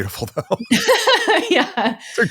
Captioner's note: laughing